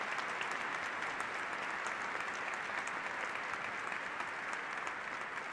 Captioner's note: applause